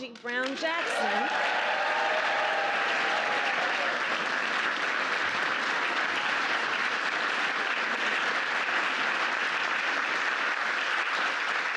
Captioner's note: applause